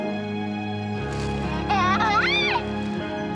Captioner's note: laughs